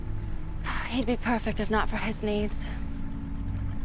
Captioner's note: sighs